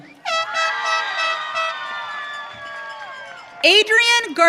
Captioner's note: audience cheering